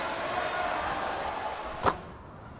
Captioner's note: ball swishing into net